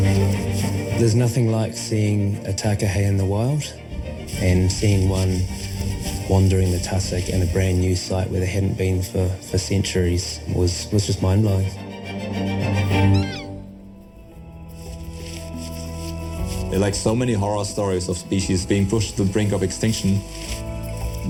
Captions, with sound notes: There's nothing like seeing a Takahē in the wild and seeing one wandering the tussock in a brand new site where there hadn't been, for centuries, was just mind blowing. (Takahē vocalises) - In like so many horror stories of species being pushed to the brink of extinction,